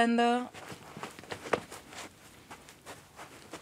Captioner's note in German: Rascheln